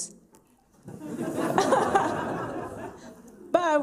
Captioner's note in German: Lachen